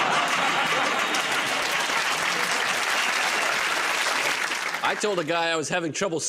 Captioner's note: laughter; applause